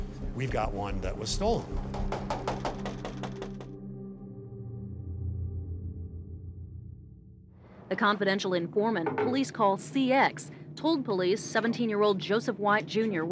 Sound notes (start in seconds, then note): 1.7 officer knocking